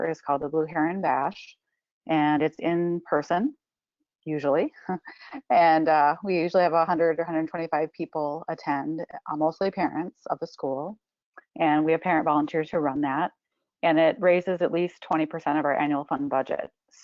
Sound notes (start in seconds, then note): 4.6 chuckles